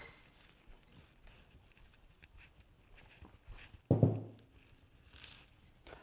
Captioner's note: bottles clinking